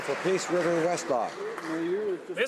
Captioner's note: applause